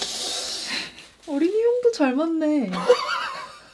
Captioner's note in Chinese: 嘻嘻